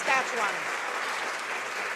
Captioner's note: some Applause